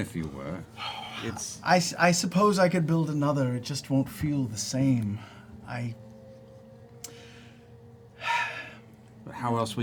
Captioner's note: sighs